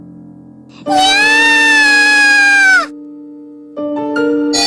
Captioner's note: roaring